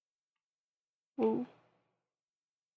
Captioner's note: quietly